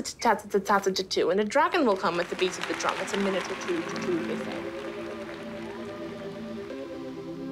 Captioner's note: applause swells; synthesiser music plays